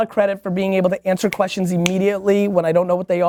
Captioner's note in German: Fingerschnippen